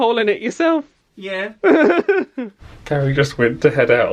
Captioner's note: laughs